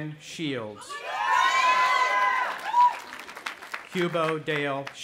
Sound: cheering

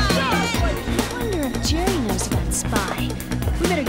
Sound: crowd clamouring

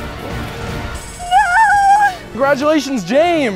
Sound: intense music; alarm rings

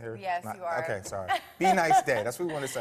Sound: laughs

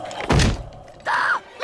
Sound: gasping

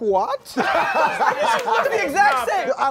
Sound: laughing

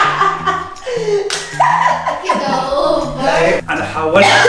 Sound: laughs; gasps

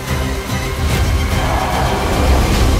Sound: crowd chanting

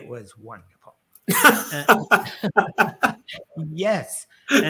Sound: laughs

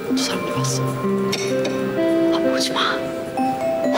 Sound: speaking Korean

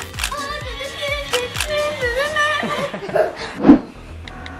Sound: mocking

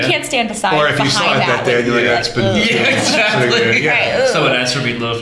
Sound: laughter

